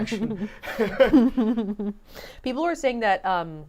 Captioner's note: all laughing